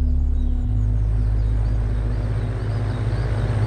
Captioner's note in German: Vogelzwitschern, Motorenrattern